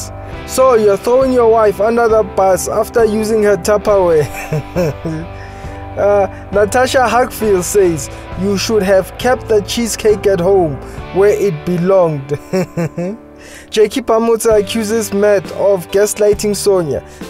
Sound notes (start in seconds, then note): 4.2 laughs; 12.3 laughs